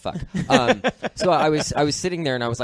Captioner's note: laughs